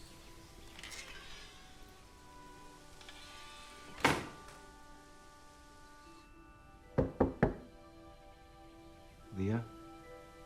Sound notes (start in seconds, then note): 0.6 door creaks, shuts; 6.9 knocking on door